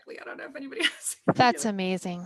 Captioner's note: laughs